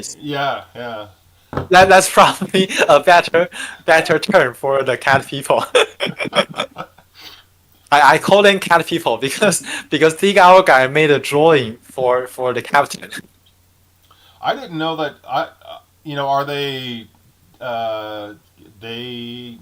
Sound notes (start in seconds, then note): 5.6 laughing